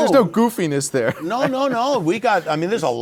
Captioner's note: laughs